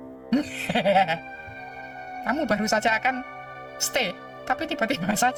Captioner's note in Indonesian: tertawa